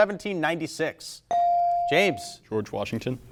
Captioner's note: buzzer chimes